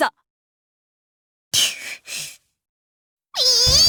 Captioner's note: silence; deep breath; frustrated meltdown